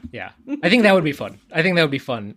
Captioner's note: laughs